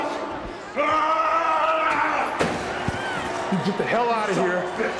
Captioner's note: Hulk Hogan screaming